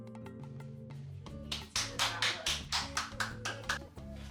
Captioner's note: clapping